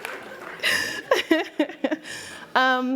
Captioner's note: laughter